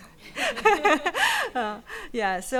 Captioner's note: people laughing